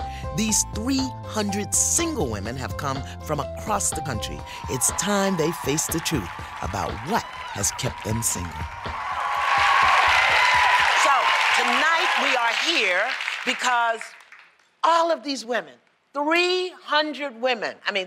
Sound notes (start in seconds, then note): 3.8 applause; 8.7 cheering; 9.6 applause